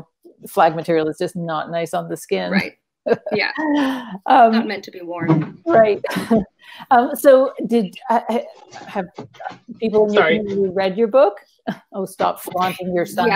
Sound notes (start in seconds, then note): 3.0 laughs; 5.2 chuckles